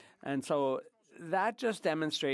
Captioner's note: speaking French